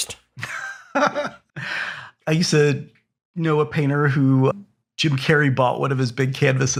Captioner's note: laugh